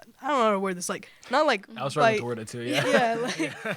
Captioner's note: laughter